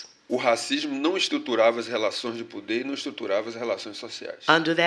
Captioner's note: speaking portuguese